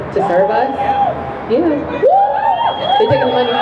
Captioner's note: crowd cheering